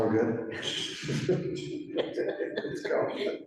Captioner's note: laughter